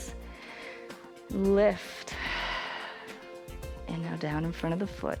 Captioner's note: exhales